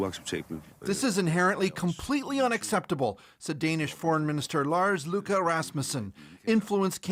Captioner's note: speaking alternate language